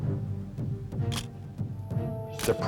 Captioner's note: camera shutter click